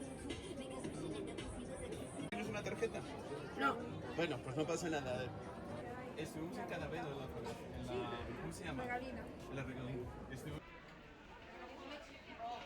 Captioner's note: people chattering